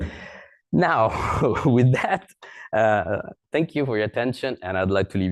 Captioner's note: laughs